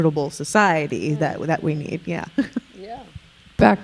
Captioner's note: chuckling